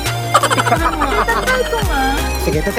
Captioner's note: laughing; laughing SFX